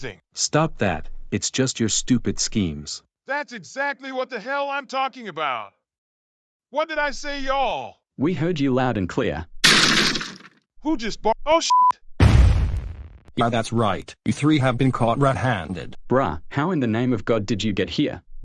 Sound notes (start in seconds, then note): 9.6 door break